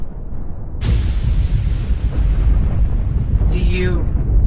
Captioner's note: explosion booming